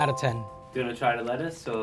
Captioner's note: bell dings